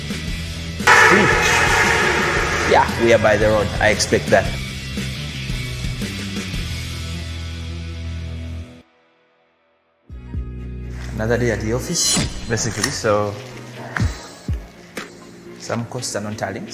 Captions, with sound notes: (object crashes) - Yeah, we are by the road. I expect that. Another day at the office basically. Some costs are not tallying